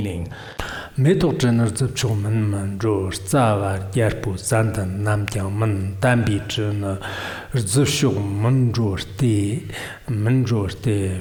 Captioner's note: giving oral transmission in Tibetan